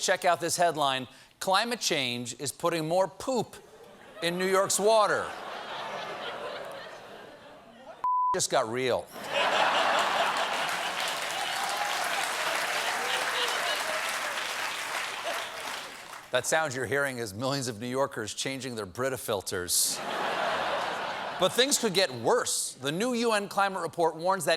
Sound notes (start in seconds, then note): 7.0 applause; 7.0 laughter; 19.9 laughter